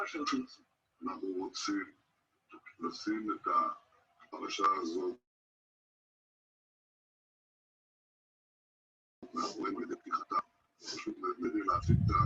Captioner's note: non-english